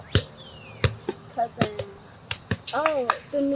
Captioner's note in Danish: på engelsk